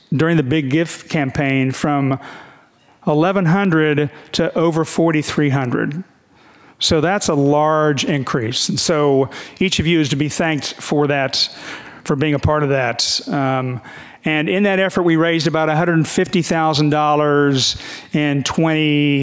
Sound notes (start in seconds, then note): none